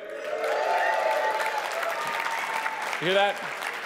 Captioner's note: audience applauding and cheering